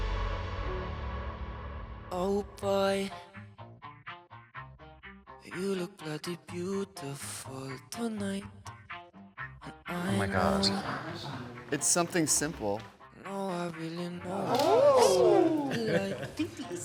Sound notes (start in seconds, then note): 14.3 group gasping; 15.8 chuckling